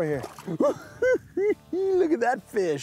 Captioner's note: giggles